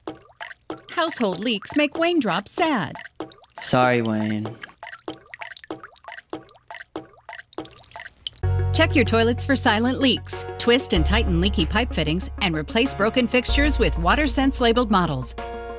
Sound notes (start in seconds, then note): 0.0 water dripping sound effects; 5.0 water dripping sound effects